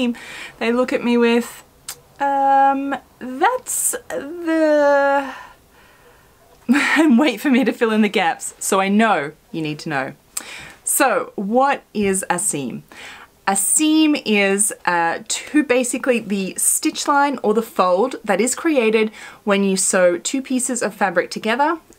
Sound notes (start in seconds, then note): 6.5 laughs